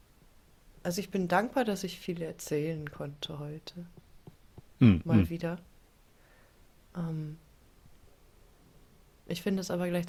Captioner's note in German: räuspern